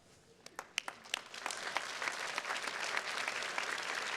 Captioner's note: attendees clapping